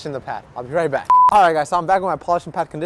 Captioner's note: signal beeps